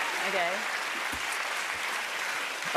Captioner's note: cheers and applause